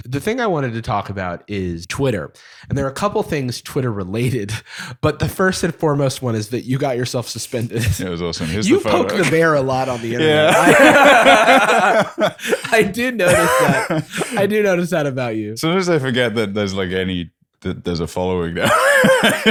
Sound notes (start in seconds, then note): 12.3 laughter